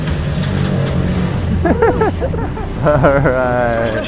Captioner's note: engine starts